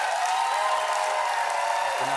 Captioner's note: cheers and applause